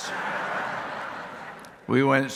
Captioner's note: audience laughing